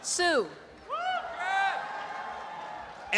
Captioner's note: applause and cheering